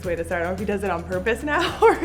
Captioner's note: laughs